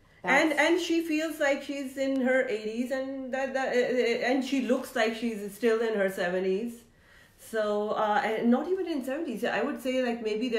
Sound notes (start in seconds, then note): none